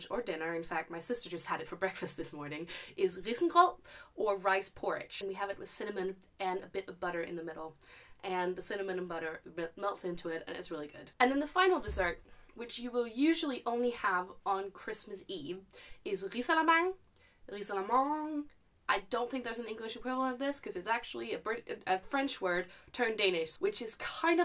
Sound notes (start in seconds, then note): 16.4 pronouncing it slightly more French